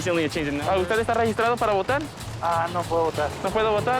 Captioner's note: speaking Spanish